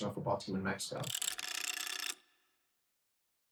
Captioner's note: counter sound